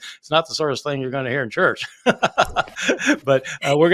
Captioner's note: laughing